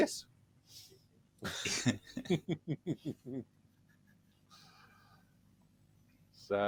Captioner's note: laughter